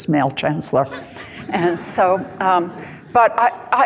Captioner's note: light laughing